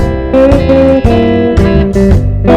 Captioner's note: none